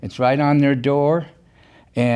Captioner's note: none